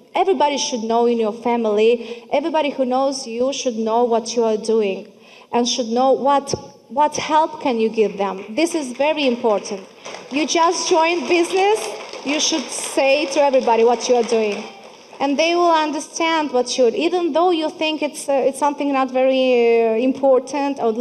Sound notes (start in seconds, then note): 11.4 audience clapping